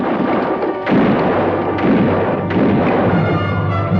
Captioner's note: guns fire